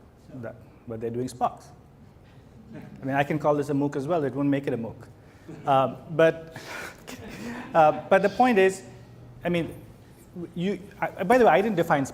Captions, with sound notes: Right, but they're doing SPOCs. (audience laughs) I mean, I can call this a MOOC as well. It won't make it a MOOC. But. (laughs) But the point is, I mean, by the way, I didn't define